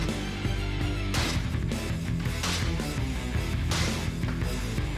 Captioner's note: blade chopping